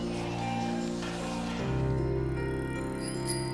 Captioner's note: bicycle bell dings; woman laughs